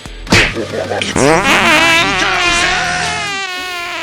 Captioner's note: fart attacc and flying away; awkward cricket sounds